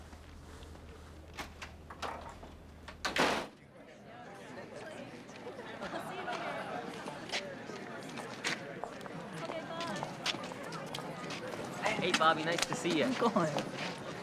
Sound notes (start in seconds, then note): 0.1 door clicking; 4.3 crowd chatting